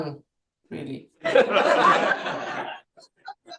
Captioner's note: laughter